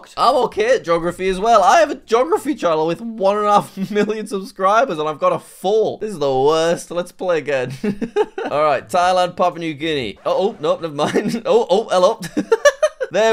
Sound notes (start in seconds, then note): 7.6 laughs; 12.1 laughs